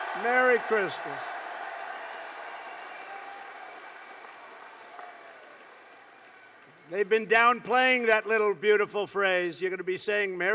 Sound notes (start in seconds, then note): 2.3 applause